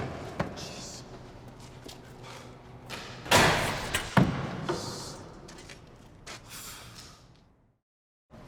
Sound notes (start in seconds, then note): 3.4 door clatters